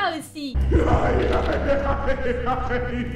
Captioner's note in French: rires diabolique et bizarre